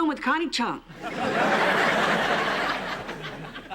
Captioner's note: laughter